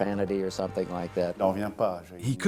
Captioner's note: non-english speech